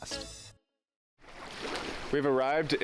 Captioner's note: waves splashing